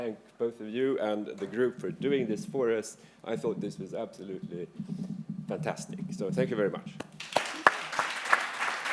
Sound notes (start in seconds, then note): 7.1 applause